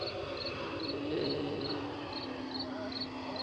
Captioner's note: groaning